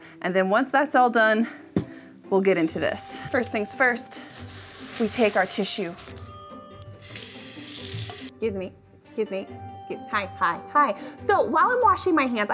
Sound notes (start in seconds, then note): 5.9 bell ringing; 6.0 water splashing